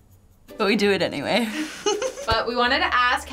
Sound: giggles

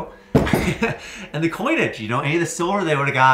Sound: laughs

